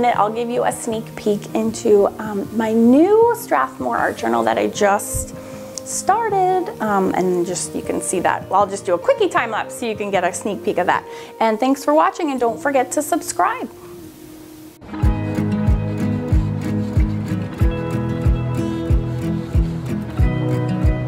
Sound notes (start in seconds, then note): 15.3 light guitar music; 16.1 pencil scraping on paper